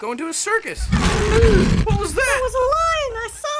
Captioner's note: ਸ਼ੇਰ ਗਰਜਦਾ